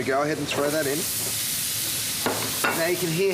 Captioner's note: sizzles